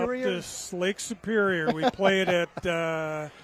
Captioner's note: laughter